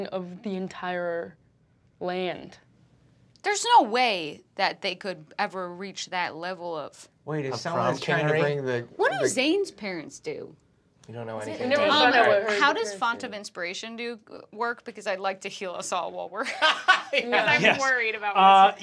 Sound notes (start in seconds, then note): 11.1 group talking; 16.6 laughing